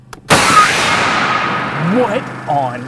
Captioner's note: cannon fires